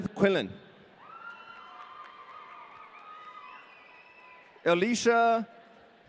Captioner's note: audience cheering